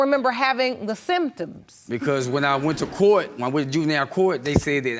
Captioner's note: crowd laughing